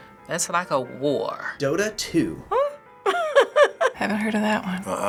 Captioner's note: chuckling